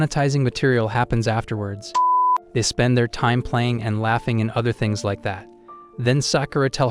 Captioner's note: beep